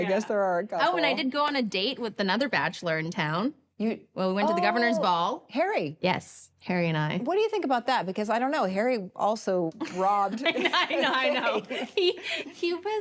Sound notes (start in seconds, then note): 10.5 both laugh